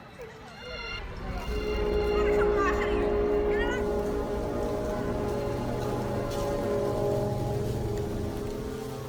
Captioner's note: ghostly train horn